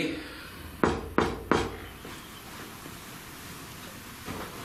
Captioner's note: knocking